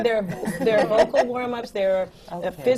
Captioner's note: laughs